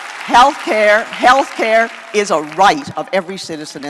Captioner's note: applause